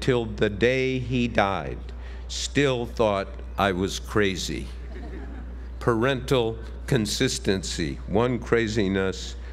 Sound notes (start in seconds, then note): 4.8 laugh